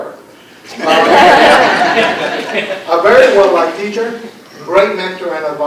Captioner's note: laughter